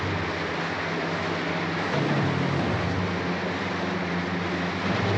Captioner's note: water splashing